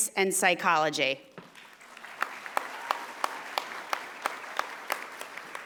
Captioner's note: audience applauding